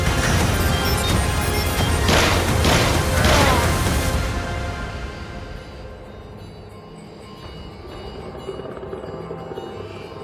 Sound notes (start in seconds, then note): 2.0 guns firing; 7.2 tense music